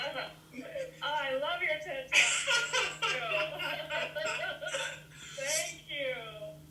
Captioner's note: laughter